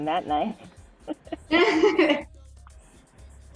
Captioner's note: laughter